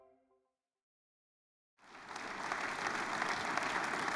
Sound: applause

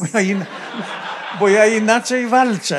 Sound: laughter; foreign language

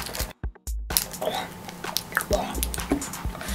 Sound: groan

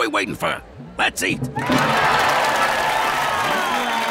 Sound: crowd cheering

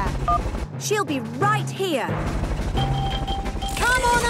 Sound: phone beeps; distant helicopter noise

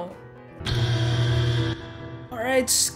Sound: buzzer

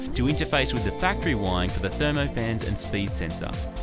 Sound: none

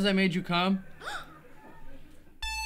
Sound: gasp

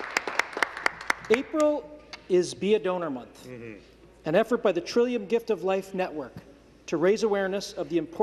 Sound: some Applause

